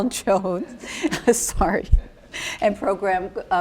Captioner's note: laughing